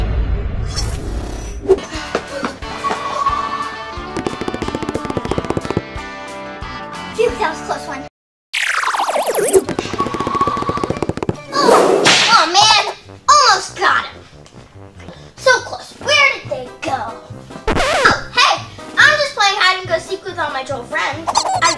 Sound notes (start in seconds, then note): 2.1 gasping; 4.1 loud foot steps; 9.6 fast footsteps